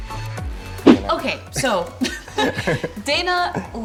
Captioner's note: laughs